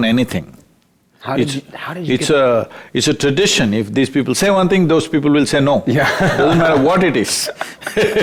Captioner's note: laughter